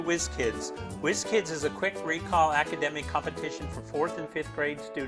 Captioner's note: none